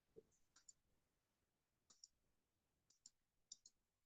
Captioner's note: mouse clicking